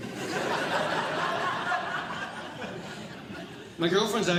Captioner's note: audience Laughing